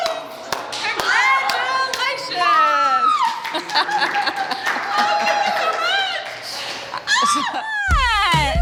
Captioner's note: clapping; screaming and laughing